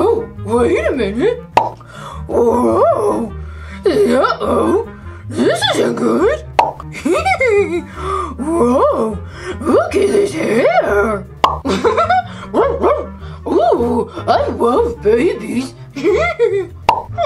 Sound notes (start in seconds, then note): 1.5 popping noise; 6.5 popping noise; 11.4 popping noise; 11.6 laughs; 15.6 laughs; 16.8 popping noise